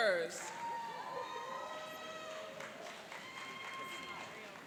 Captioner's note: cheering and applauding